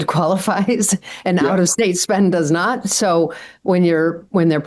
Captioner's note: laughs